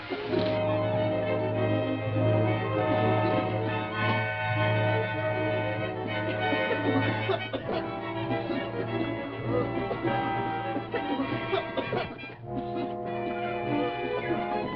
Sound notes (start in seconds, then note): 0.1 suspenseful music; 9.5 coughing